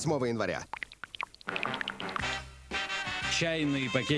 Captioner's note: sound of drops falling; energetic music